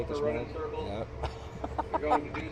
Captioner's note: laughs